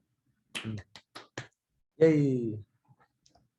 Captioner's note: claps hands